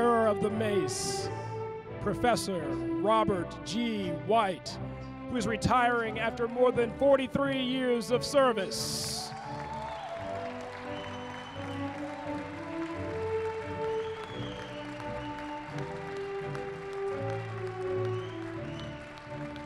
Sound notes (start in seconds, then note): 14.0 applause